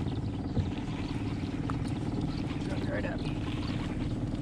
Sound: reel cranking

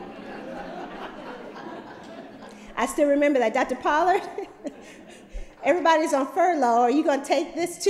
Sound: laughter

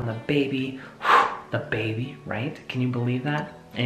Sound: exhales

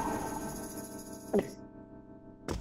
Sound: gulp

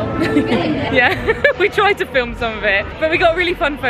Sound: giggling

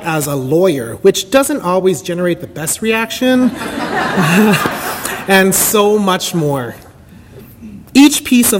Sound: audience laughter

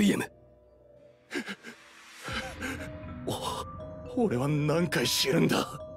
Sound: gasps

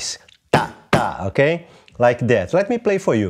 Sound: vocalizes rhythm

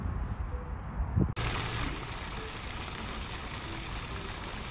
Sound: water pattering

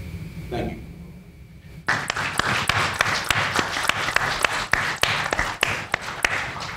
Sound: panel applauds

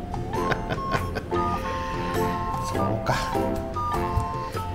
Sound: laughs

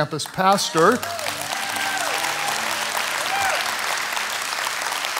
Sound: audience clapping

